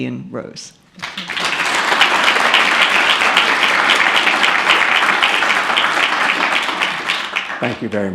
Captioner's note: applause